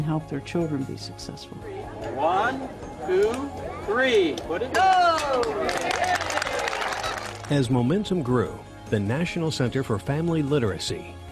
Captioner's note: cheering